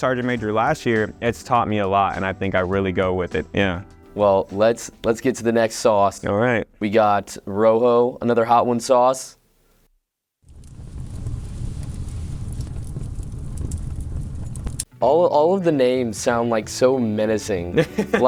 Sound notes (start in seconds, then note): 10.4 fire sound effect